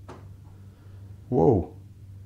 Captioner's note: slam in the room